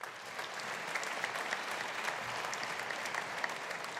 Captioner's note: audience applauding